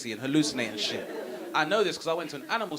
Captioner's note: audience laughing